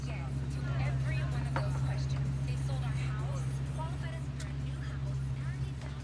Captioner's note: quiet conversation in background